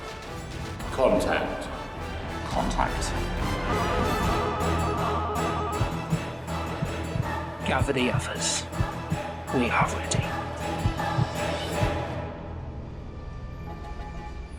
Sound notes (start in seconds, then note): 3.7 telepathic sounds; 5.0 heart beating sounds